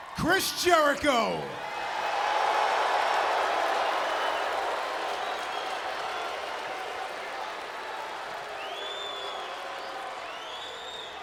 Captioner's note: crowd cheering